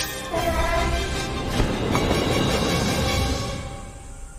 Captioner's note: elephant trumpeting